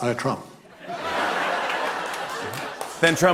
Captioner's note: laughter